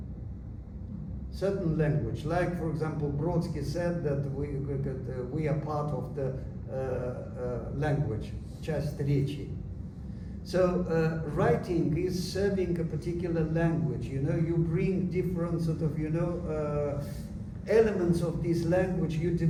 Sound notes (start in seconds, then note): 8.8 non-english